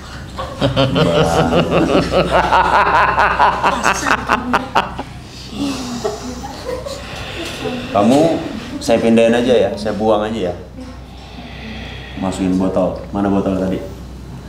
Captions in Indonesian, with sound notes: (tertawa) Kamu saya pindahin aja, ya? Saya buang aja, ya? Masukin ke botol mana botolnya tadi?